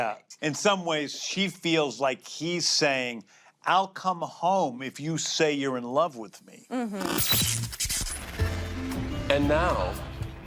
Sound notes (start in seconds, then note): 7.0 static interference